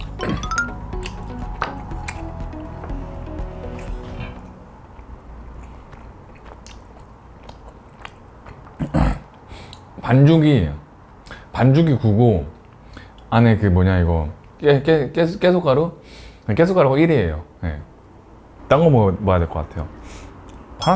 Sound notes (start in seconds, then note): 3.5 and for a while, only the sound of songpyeon chewing was there